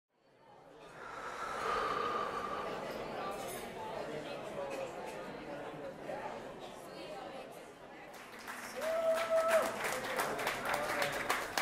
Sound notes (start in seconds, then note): 0.8 heavy breathing; 3.6 audience chatting; 8.7 audience cheering